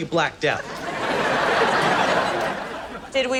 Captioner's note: audience laughs